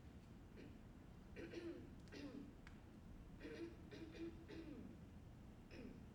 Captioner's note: performer clears throat